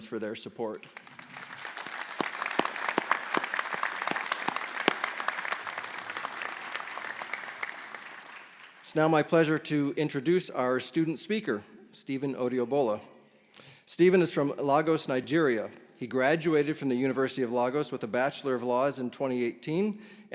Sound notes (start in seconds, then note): 5.2 applause